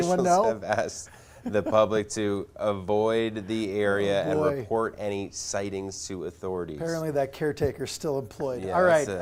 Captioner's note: laughter